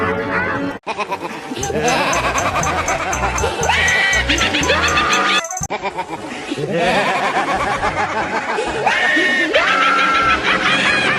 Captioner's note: Cat Puma the Weirdo evil laugh; Mupa, Puma, and Sonya laugh evil